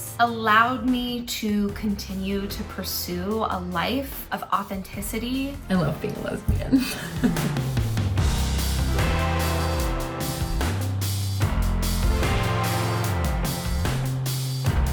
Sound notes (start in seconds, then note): 6.7 laughs; 8.1 upbeat music